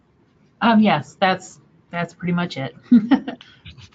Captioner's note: laughs